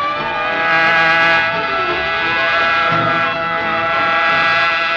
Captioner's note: hornet buzzing